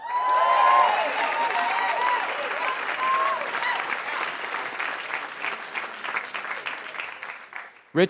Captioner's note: applause